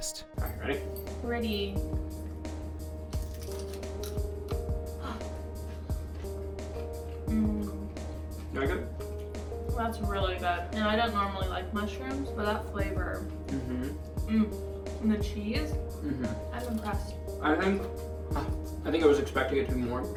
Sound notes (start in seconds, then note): 1.5 crunches